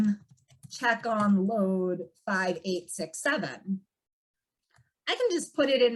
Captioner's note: keyboard clanking